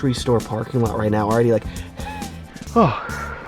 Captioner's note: camera man puffing; gasping